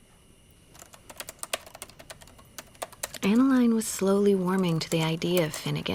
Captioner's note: typing